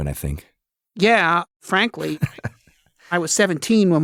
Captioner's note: laughing